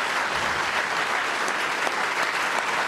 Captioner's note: applause